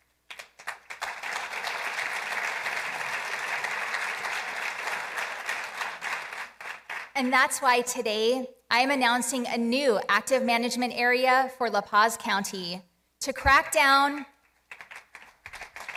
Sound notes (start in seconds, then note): 4.3 applause